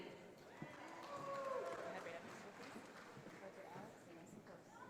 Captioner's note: audience applauding